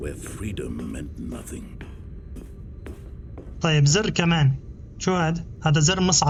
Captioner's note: footsteps